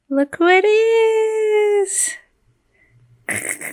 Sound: laughs

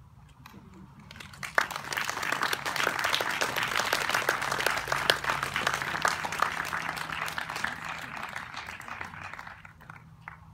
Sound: applause

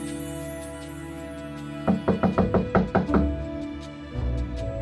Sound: knocks on door

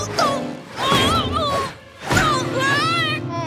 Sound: grunting; screaming

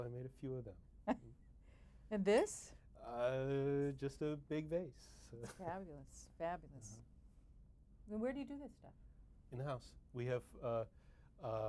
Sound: laughs

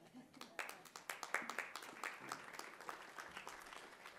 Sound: crowd applauds

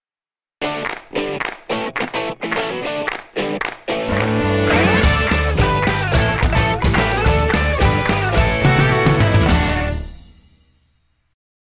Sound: claps

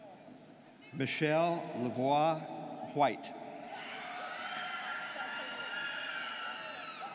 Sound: students cheering

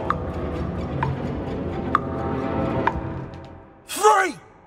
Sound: clock ticking

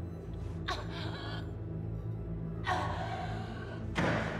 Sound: Nikki gasping

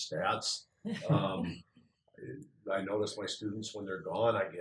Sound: laugh

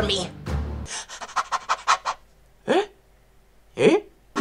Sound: panting

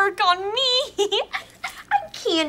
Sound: giggling

